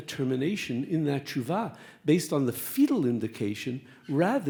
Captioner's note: speaks Hebrew